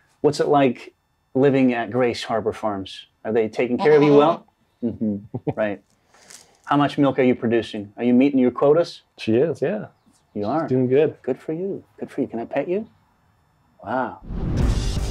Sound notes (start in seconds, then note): 3.7 goat bleats; 14.8 upbeat music